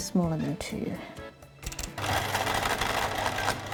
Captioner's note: machine noise